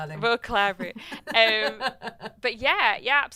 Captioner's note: laughs